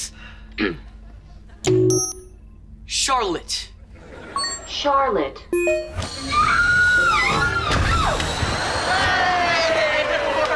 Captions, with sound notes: [beeping] Charlotte. Charlotte. [beeping] [screaming] Oh! Hey! It worked!